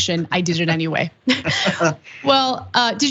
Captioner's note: laugh